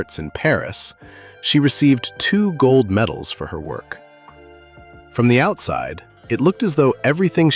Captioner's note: thoughtful